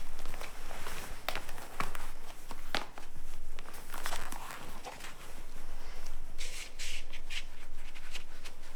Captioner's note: foot steps